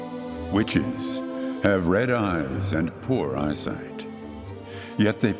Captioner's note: disembodied voice